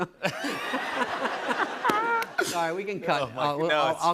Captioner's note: laughter